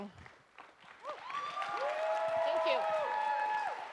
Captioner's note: audience cheers and applauds